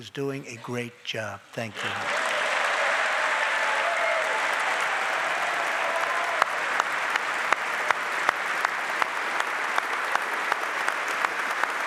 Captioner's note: applause